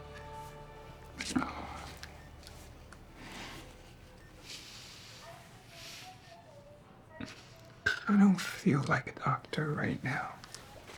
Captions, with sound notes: *Jesse exhales* I don't feel like a doctor right now.